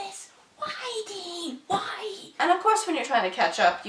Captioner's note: whispering